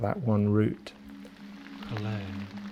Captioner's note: fire crackling